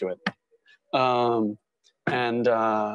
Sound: thump

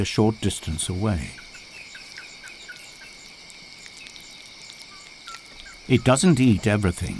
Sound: bat screeches, munching

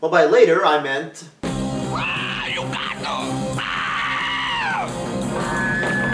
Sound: screaming

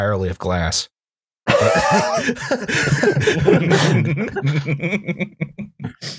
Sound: laughter

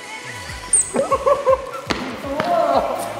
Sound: haha

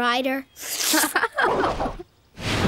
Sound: giggling

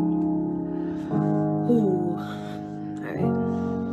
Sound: sighs

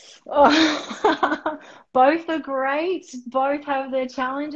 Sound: laughing

